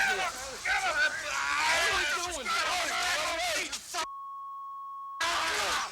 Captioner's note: wrestlers shouting